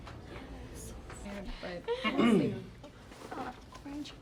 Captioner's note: clears throat